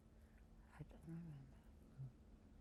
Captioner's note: whispering